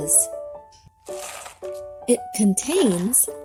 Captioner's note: marbles crunching